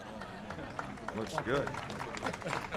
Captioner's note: laughter; applause